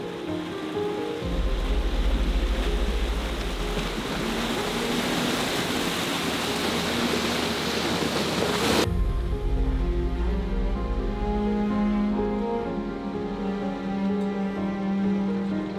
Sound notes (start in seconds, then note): 6.0 splashing